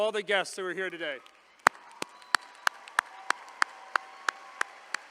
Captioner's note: all applauding